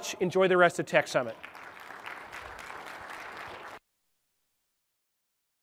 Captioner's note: applause